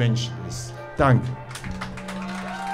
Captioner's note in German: Applaus